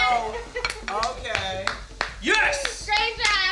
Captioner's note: clapping